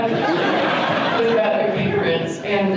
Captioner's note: audience laughter